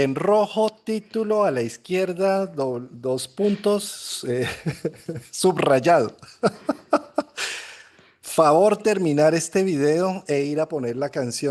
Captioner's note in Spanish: risas